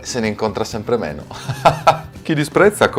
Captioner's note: laugh